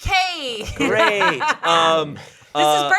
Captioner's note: laughing